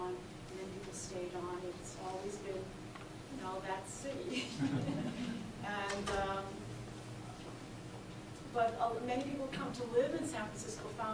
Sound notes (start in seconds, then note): 4.4 laughs; 4.4 audience laughs